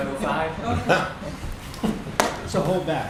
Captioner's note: laughter